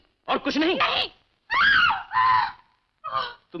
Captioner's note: screams